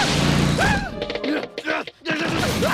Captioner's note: shrieks; grunting